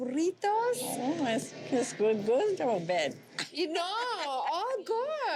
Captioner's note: laughs